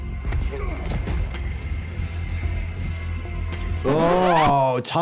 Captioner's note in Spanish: golpe sordo del personaje